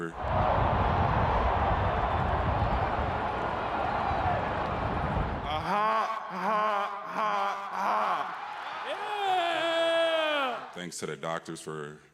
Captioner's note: cheers and Applause